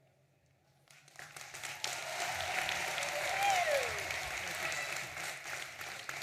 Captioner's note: audience applauding and cheering